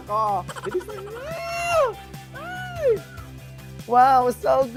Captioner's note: laugh sfx; exclaims